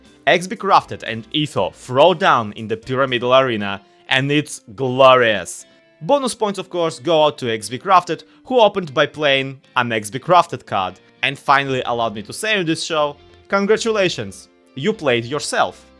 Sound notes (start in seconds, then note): none